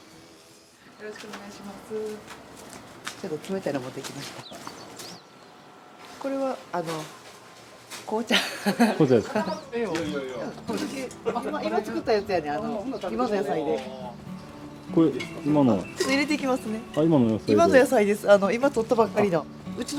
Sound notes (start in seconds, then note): 8.3 laughs